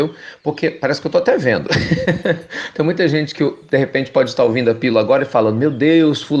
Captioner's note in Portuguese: risos